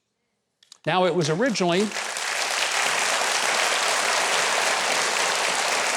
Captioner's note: audience applauding